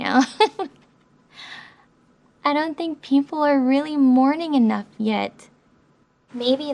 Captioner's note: laughs